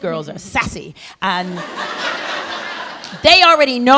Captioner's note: laughter